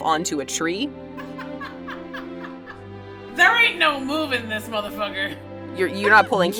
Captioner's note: laughs